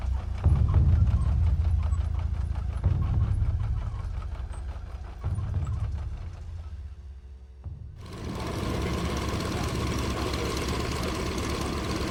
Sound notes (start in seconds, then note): 8.0 propellers whirring